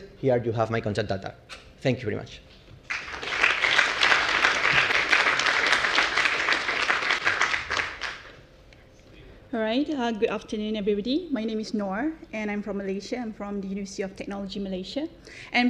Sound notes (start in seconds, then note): 2.8 applause